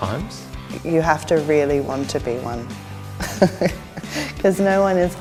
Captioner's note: laughs